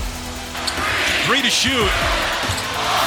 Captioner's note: upbeat music continues; crowd